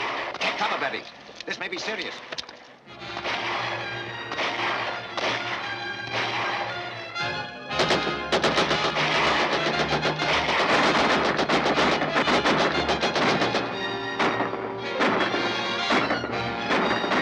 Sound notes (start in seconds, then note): 4.3 gunfire Continues